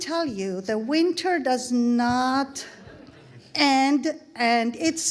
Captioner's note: audience laughing